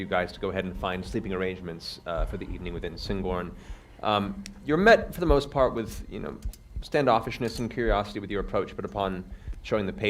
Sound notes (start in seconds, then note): none